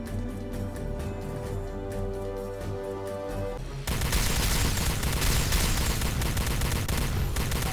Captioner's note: gun firing; dramatic music